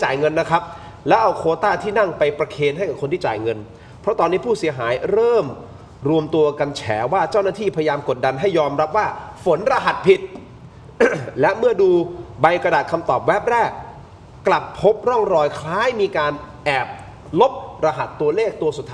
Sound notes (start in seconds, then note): 10.9 clears throat